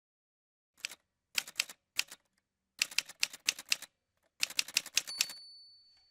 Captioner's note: typewriter sounds